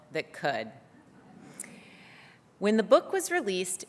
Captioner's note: laughter